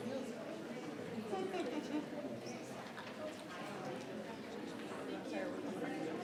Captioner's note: attendees chattering continues